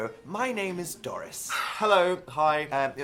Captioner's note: sigh